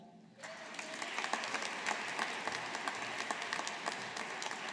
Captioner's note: audience applauding